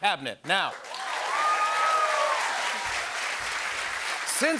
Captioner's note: cheers and applause